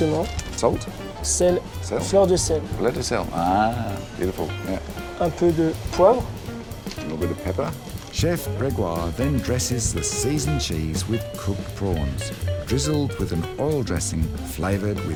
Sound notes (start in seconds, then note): 2.2 speaks french